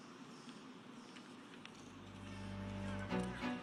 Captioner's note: cheers and applause